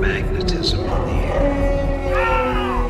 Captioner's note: creature howling